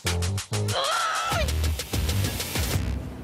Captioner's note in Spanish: Grito ahogado